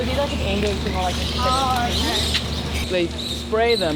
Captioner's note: indistinct background chatter